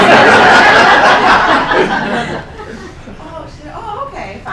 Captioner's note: laughing